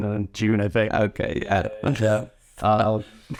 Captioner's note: not a burp, weird recording noise